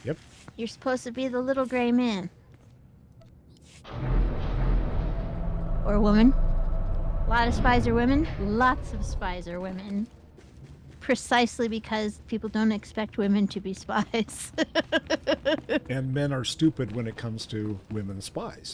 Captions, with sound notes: You're supposed to be the little gray man. Or a woman. A lot of spies are women. Lots of spies are women. Precisely because people don't expect women to be spies. [LAUGHS] And men are stupid when it comes to women spies.